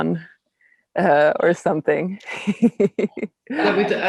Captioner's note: laughing